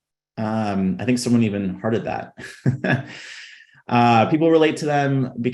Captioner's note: chuckling